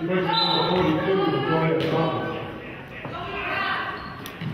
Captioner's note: whistle blows